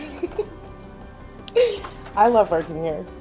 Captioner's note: chuckling